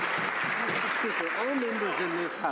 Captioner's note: some Applause